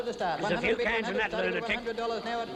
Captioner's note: auctioneer chanting